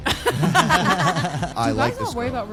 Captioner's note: group laughs